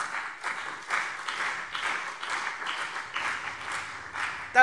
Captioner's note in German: Beifall CDU und BÜNDNIS 90/DIE GRÜNEN